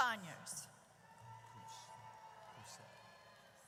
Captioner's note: audience cheers